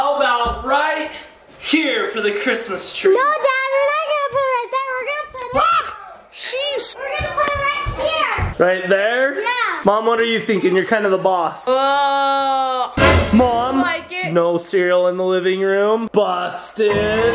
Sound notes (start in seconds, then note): 11.9 groans; 17.1 ominous musical notes